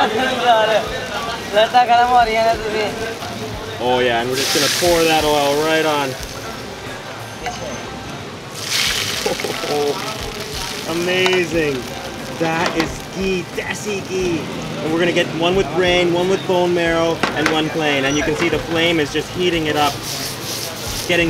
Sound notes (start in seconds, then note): 8.5 oil sizzles